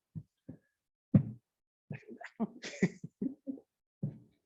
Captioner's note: laughs